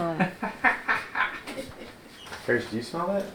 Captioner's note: laughs